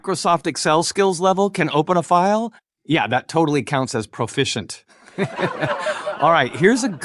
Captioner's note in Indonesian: tertawa